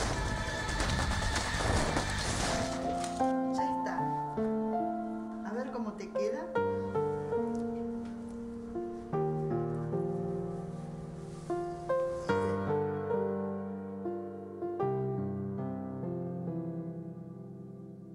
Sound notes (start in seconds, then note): 3.0 speaking spanish